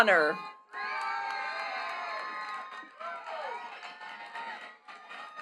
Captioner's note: attendees cheering and clapping